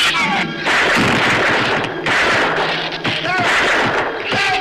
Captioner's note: shrews screech; gun fires